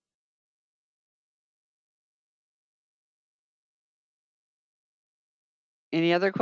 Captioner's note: 5 seconds pause